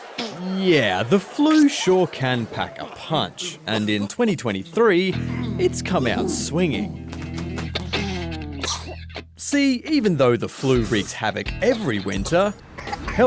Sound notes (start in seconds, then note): 8.6 sneezes